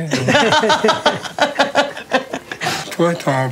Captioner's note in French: rires